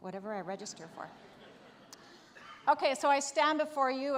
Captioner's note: audience laughs